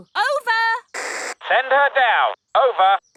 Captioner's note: walkie-talkie crackles